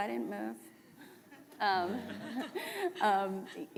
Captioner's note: laughter